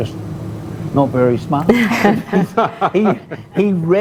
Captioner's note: laughter